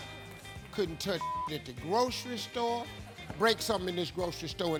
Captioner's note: beeping